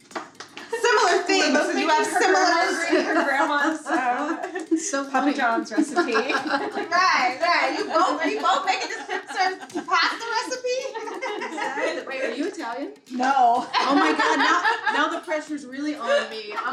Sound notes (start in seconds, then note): 6.4 laughing; 10.9 laughing; 13.2 laughing